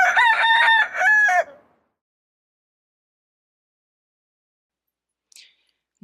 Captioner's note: rooster crowing